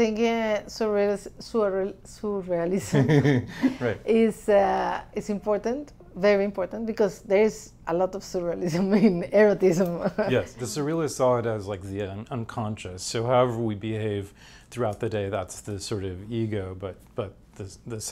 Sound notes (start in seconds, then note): 2.9 laughs; 11.2 laughs